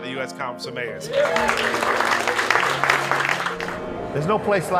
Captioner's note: audience applauds